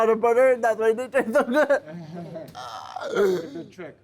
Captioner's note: laughs